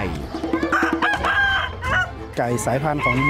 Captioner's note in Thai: เสียงไก่ขัน